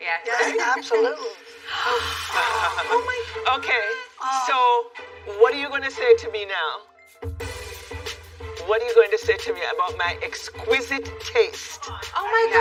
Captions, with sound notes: -Yes. es. Yes. -Aolutolutely. -[Gasping] -Oh, my God!d! Okay, soso, what are you you gonna say y e now? What aat are you goi to to saye about my exquixquisite taste?te? No, is gorgeorgeous. Yeahah. Uh-huh..